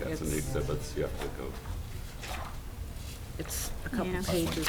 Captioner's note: mumbling